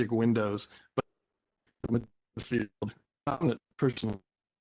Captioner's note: break in audio